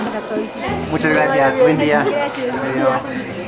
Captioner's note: in Spanish